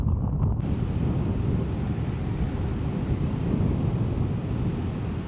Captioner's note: car engine idling